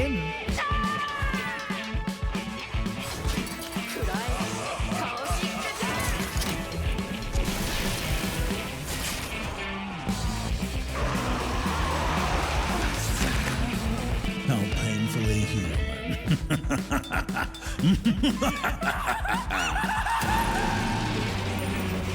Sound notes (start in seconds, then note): 0.1 screams; 10.9 roaring; 15.8 laughs crazily; 18.3 woman screaming and whimpering